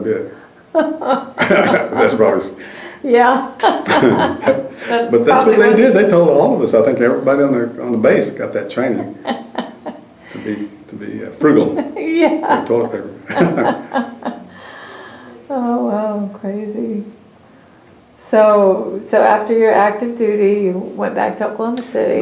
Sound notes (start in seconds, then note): 0.8 laughs; 16.3 laughter